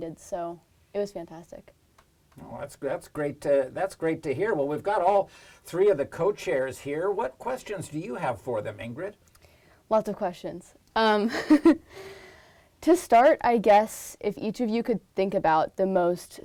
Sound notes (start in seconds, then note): 11.3 laugh